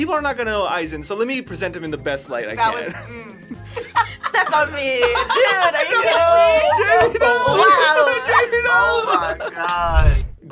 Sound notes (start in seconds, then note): 5.1 laughing